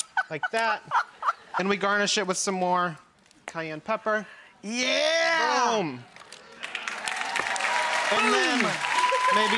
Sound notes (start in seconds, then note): 6.6 clapping